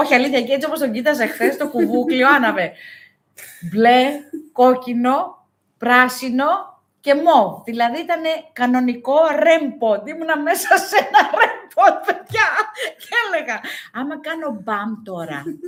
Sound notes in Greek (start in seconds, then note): 10.8 γέλια